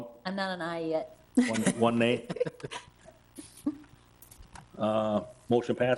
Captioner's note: chuckles